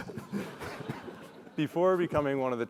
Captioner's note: laugh